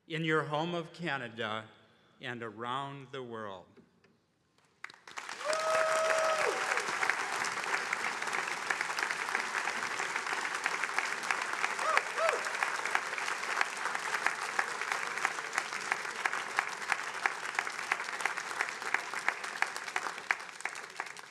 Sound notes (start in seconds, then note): 6.6 attendees applauding; 13.5 attendees applauding